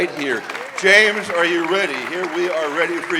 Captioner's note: audience applauding